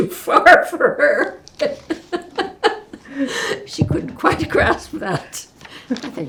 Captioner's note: laughing